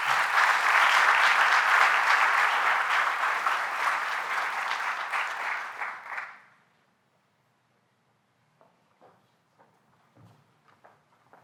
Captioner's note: applause